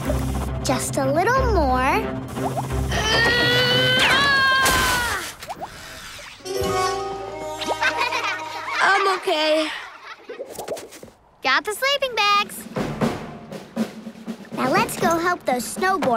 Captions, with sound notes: Just a little more. Ahh! [laughing] I'm okay. Got the sleeping bags. Now, let's go help those snowboarders